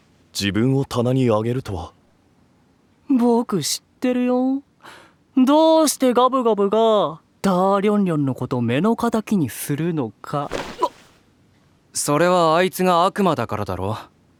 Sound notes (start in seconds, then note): 2.2 wickedly